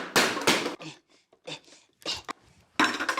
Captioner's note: clang! clang! clang!; pants softly; can opener clatters